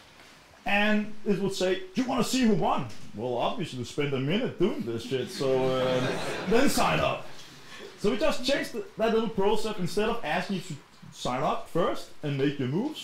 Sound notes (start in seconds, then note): 4.7 chuckling